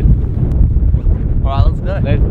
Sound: wind blowing

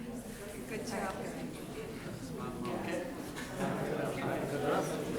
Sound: people chattering loudly

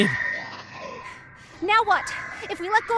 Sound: screeching

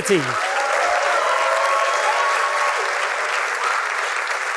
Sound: applause

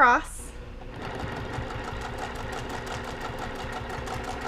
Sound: machine whirring

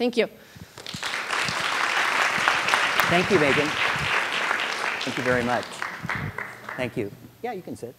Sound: applause

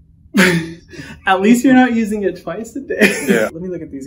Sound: laughs

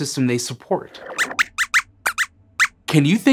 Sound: squeaks squeaks

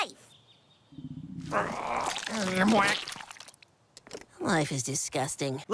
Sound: birth sounds

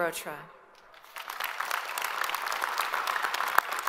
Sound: all applaud

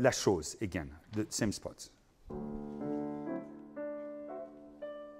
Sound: speaking in foreign language

